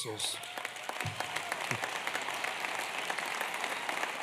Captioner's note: applause